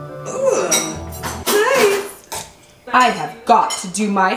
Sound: disgusted groans

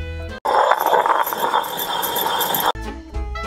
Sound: grinding stone hissing

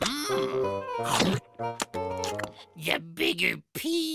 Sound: munching

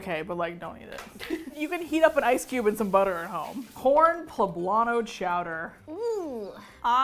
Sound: laughs

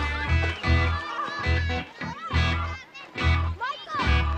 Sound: excited Chatter

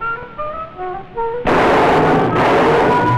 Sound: gunshots

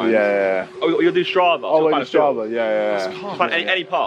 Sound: team mumbling

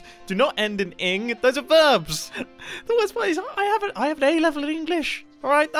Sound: laughing nervously

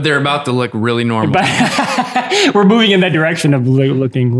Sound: laughs

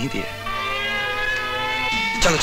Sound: police siren blares

